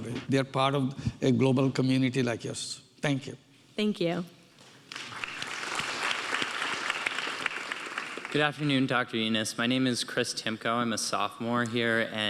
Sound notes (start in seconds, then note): 4.9 audience applauding